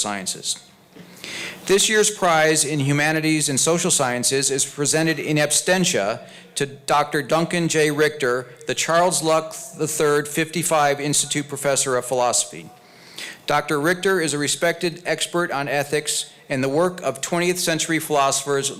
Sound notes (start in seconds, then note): none